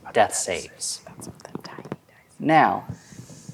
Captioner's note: whispering